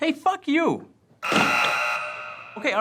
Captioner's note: buzzing many times